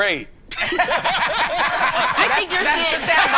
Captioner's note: everyone laughing